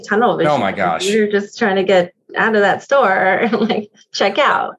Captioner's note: laughs